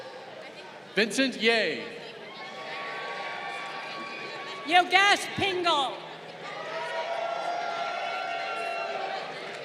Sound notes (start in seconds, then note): 2.2 crowd cheering